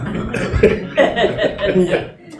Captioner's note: laughter